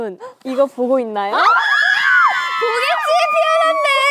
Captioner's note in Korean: 거의 사이렌